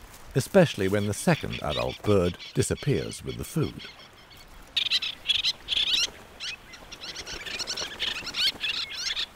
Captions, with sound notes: Especially when the second adult bird disappears with the food. [birds squawking]